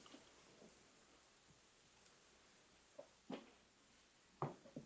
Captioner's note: none